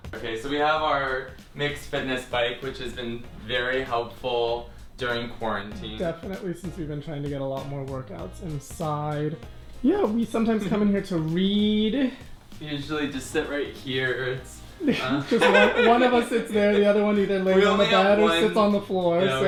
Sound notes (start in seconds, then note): 14.7 laughs